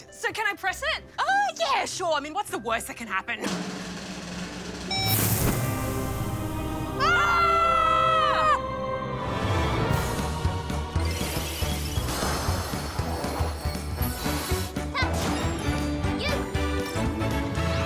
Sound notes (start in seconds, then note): 3.4 drum roll; 4.9 beep!